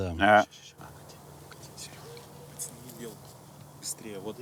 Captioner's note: loud whispering outside the shot